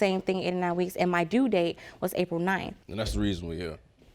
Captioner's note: none